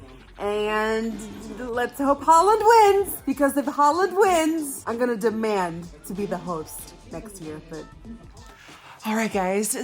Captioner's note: loudly talking